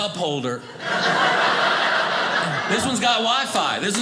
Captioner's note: audience laughing